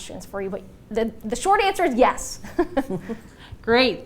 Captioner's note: laugh